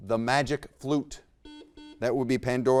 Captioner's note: buzzer beeps